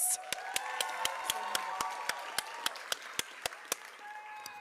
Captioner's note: applause